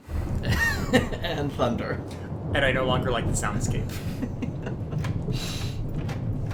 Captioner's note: laughing